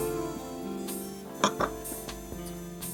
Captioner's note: glass clicks